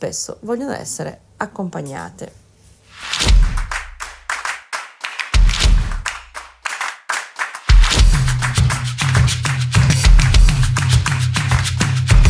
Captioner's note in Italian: Applauso